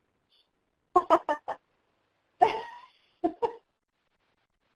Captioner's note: laughing